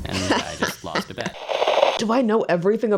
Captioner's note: TV static